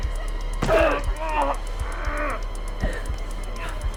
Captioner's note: strike thudding; assailant groaning